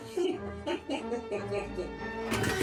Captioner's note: laughing